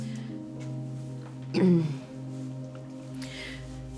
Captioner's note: clears throat